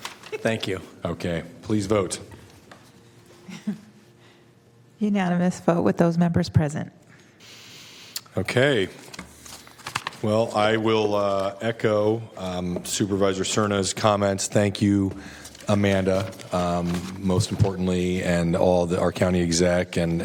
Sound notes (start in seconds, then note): 3.4 laughter